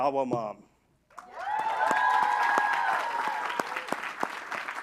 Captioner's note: applause